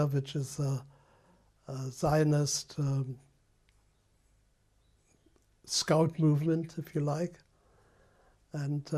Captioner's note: pauses for 3 seconds